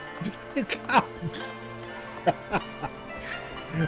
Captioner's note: laughs